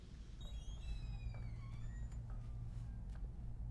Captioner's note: door creaks